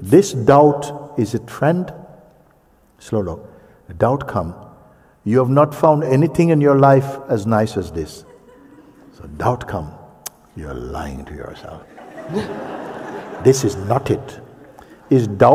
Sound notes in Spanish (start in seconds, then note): 11.8 risas